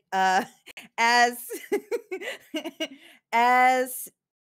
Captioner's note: laughs